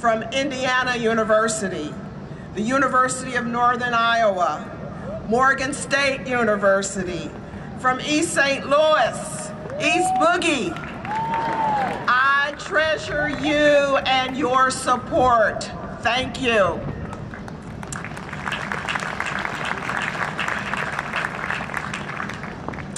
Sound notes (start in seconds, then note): 9.6 cheering and Applause; 17.1 applause